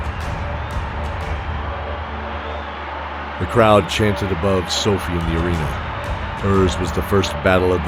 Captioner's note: chanting